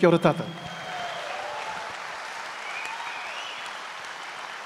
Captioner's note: speaks native language; audience applauds and cheers